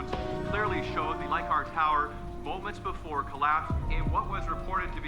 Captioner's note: none